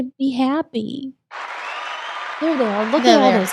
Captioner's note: crowd cheering